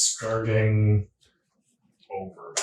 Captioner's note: laughing